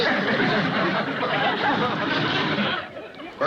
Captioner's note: chuckles